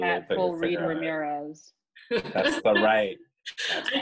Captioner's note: cat laughing